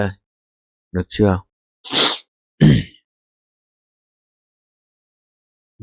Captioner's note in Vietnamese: khịt mũi; hắng giọng